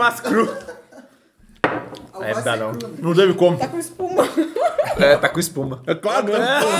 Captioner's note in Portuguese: risos; risos